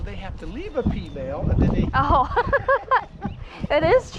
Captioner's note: laughs